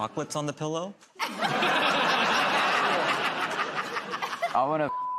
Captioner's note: laughter